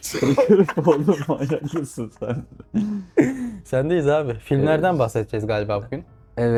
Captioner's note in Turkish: kahkaha